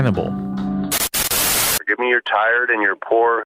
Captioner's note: static hissing